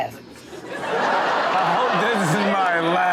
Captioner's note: audience laughs